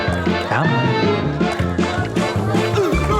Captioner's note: speaks in another language